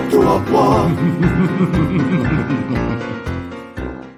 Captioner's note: evil laughter